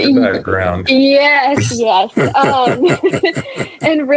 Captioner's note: laughs